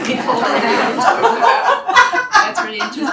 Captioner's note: laughter